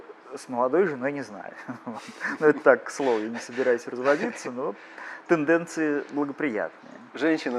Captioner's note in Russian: смеются